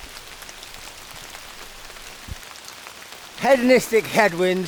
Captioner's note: heavy rainfall